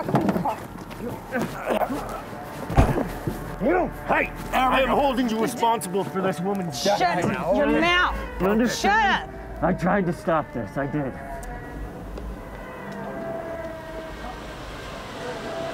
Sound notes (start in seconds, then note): 1.0 Alister grumbling; 12.5 tense music